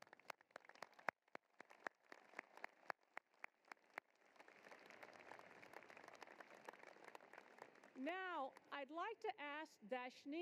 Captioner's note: applause